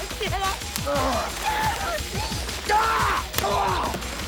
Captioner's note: Jodie crying; Graham grunts; Graham screaming and groaning